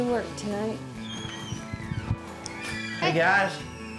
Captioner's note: door opening